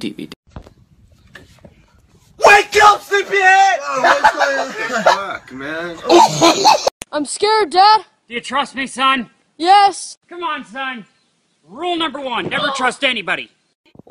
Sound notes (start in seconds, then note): 3.8 muffled shocked laughter